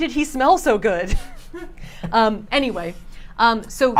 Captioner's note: group chuckles